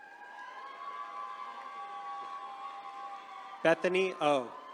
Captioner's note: attendees cheering